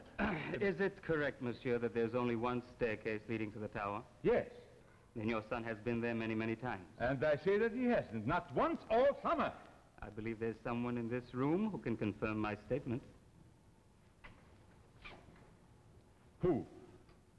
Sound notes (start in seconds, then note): 0.0 clearing throat; 3.7 Charles' voice; 16.4 Charles' voice